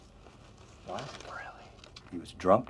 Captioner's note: whispering